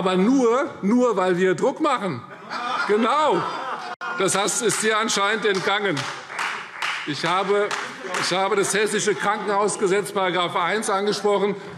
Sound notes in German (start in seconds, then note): 2.2 Lachen BÜNDNIS 90/DIE GRÜNEN; 4.6 Beifall Freie Demokraten